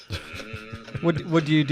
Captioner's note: laughs